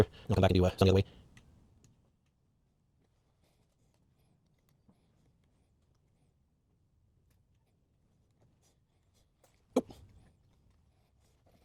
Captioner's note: silence